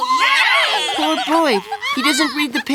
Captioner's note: kids cheering